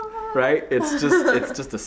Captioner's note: laughing